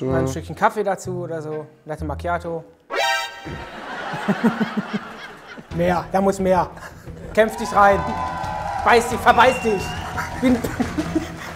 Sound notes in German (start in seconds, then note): 3.5 Gelächter; 7.3 Jubel; 10.1 lacht